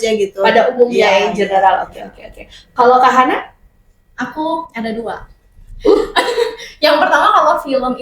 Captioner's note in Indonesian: tertawa